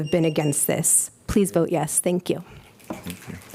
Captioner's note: applause